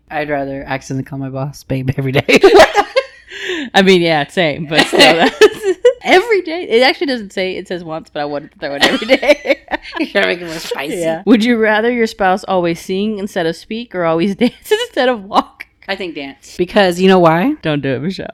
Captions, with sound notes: - I'd rather accidentally call my boss babe every day. (both laughing) - I mean, yeah, same, but still. Every day, it actually doesn't say it says once, I wouldn't throw it everyday. I'm making myself spicy. Would you rather your spouse always sing instead of speak or always dance instead of walk? - I think dance. - Because you know why? - Don't do it Michelle.